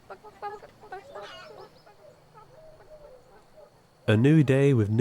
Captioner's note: mourning dove calls